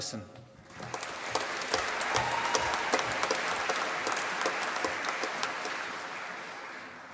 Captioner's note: applause